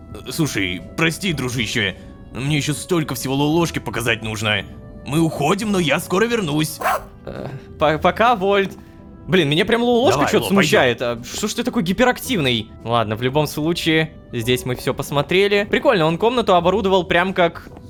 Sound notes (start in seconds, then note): 6.8 robodog barks